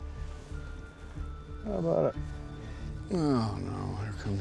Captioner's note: scottish accent